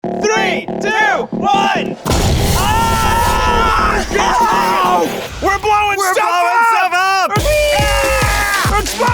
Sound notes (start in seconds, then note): 0.0 upbeat techno music; 2.0 exploding device booming; 2.5 men yelling; 7.6 men cheering